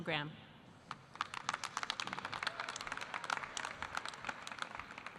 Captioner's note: audience applauding